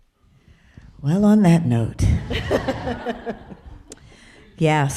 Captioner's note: people laughing